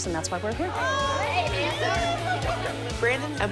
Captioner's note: chatter